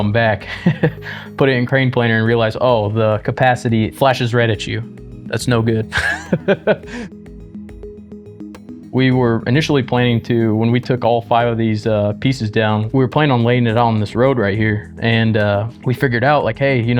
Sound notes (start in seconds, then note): 5.9 laughs